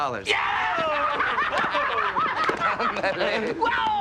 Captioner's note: laughter and cheering